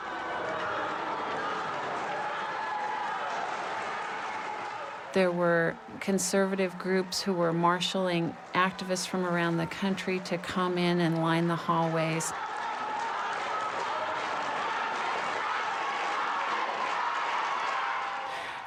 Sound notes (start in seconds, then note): 0.3 crowd applauding; 12.7 crowd cheering and applauding